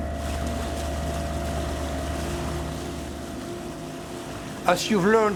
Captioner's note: boat churning water